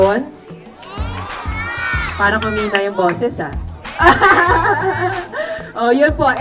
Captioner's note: laughs